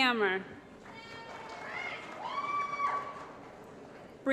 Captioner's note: applause & Cheering